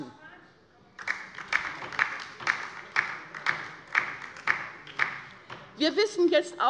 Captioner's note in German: Beifall bei der LINKEN